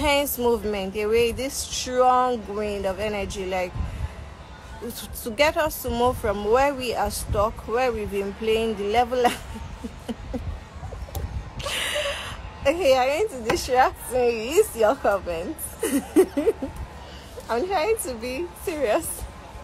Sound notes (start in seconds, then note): 9.3 giggle